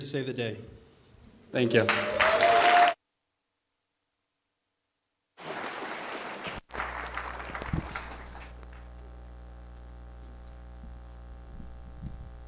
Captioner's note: applause